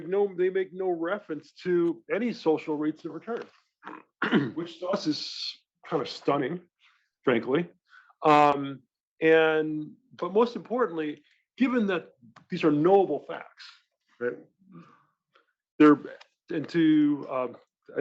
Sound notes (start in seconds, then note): 3.8 cough